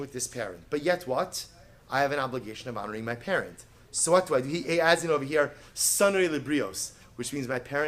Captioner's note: Hebrew